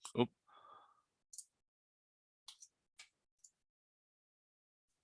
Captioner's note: mouse clicking